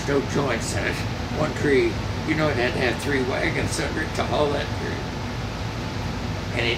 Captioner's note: none